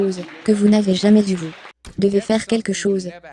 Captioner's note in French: L'audience applaudit